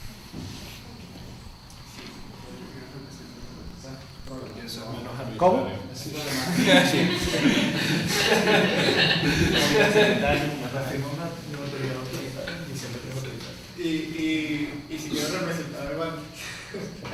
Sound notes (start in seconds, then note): 5.2 chuckle; 9.3 laughs